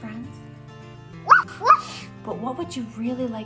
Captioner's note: Ella barks